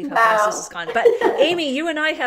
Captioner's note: laughter